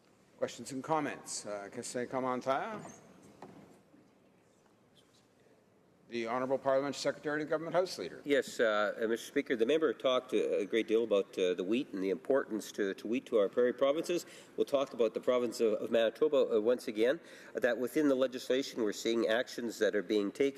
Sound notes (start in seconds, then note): 5.8 speaking French